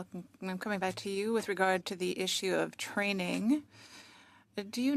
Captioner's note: speaking French